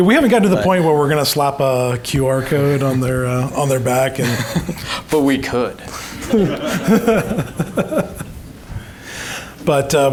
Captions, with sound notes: - We haven't gotten to the point where we're gonna slap a QR code on their back. - But we could. (audience laughing)